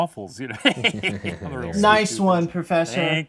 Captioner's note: all laughing